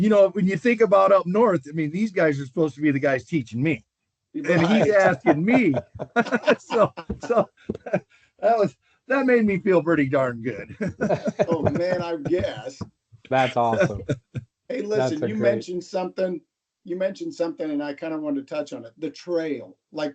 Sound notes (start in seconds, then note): 4.7 laughter; 13.4 laughter